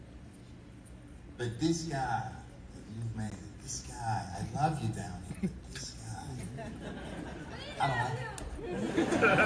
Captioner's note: laughter